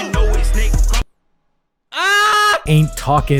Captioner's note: screams